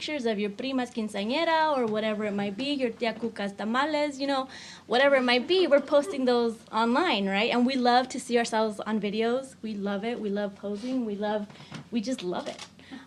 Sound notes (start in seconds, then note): 3.3 speaks in foreign language